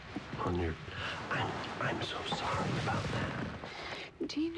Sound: whispers

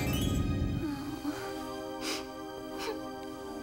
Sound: sobbing

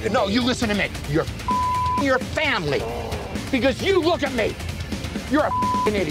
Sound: beep; beep

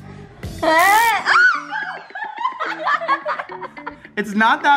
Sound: girl squeals and laughs

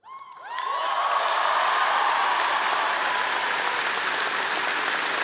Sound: audience cheering and clapping

